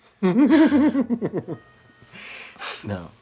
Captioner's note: Irving giggles